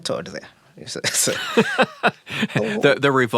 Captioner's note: both laughing